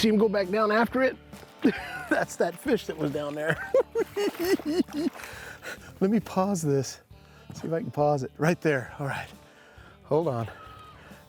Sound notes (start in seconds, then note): 3.9 cackling